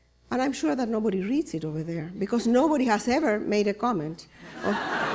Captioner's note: laughter